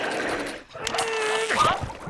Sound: screaming; grunting

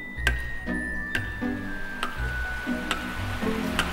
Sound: rain Sound

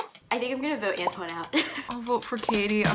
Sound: laughs

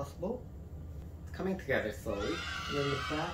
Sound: kids cheering

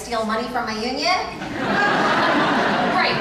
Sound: audience laughs

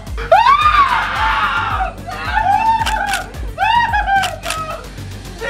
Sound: screaming and crying hysterically

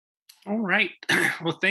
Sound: coughs

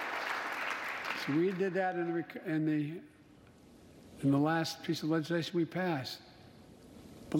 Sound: applause

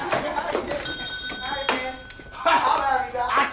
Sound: bell rings

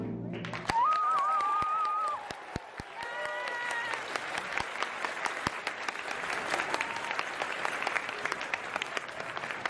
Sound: audience applause

